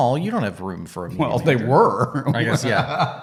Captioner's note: laughs